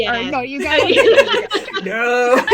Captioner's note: laughter